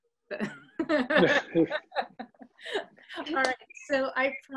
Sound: laughs

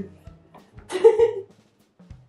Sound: giggle

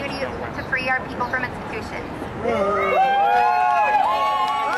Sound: crowd cheers

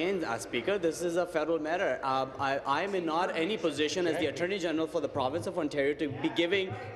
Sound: applause

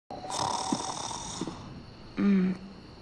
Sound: snoring

